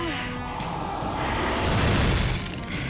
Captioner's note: thunderous crash